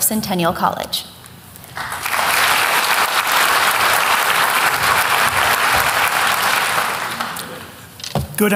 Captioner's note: applause